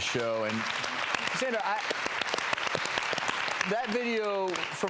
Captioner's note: audience claps